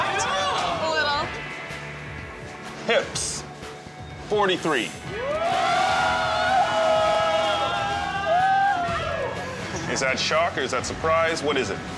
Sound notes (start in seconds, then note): 5.1 spectators applauding